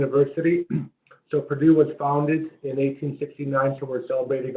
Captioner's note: cough